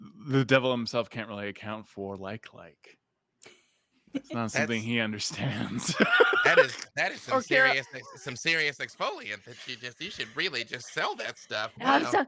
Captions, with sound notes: The Devil himself can't really account for like like. It's not something he understands. (laughs) - That is some serious exfoliant. You should really just sell that stuff.